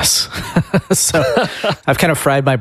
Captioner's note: laughs